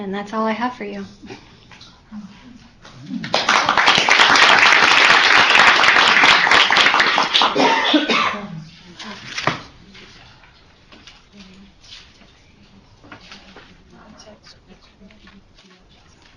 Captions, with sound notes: And that's all I have for you. [APPLAUSE]